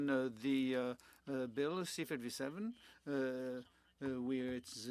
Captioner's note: speaking French